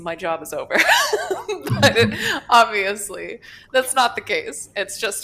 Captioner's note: laughs